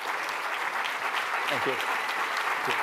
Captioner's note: applause